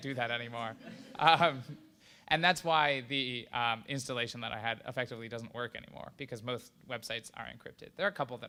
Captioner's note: laughter